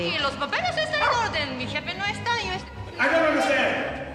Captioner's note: speaking in spanish